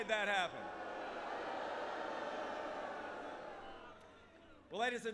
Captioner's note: crowd booing